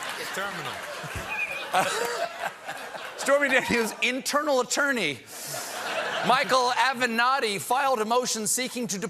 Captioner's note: laughter